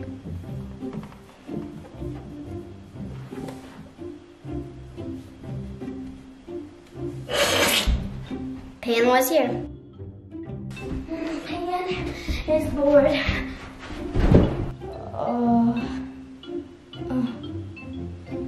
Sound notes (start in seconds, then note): 0.1 soft music; 13.8 falling; 14.8 groaning